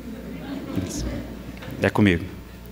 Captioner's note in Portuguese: Risadas